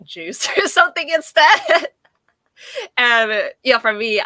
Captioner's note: laughing